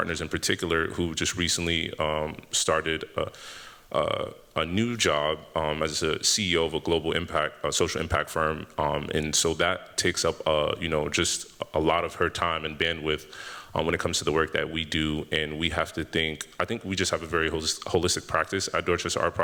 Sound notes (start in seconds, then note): none